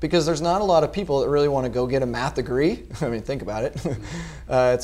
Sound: laugh

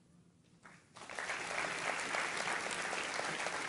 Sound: applause

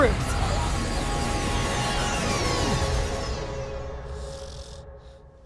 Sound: laser beeps; snores

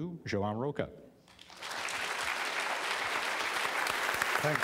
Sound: applause

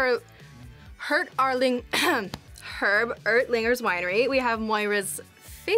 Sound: clears throat

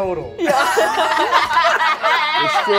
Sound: all laugh

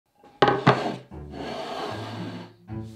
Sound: quirky music playing in background throughout video; plate sliding

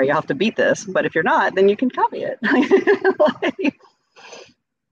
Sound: laughs

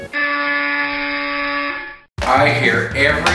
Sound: buzzer noise

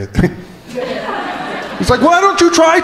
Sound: crowd laughing

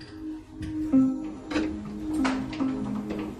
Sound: door opening

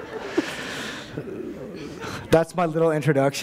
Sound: laughter

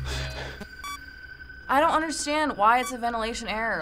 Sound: in game: system blips

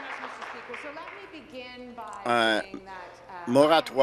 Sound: applause

